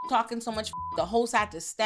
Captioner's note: beep